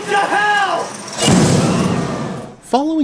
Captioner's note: booming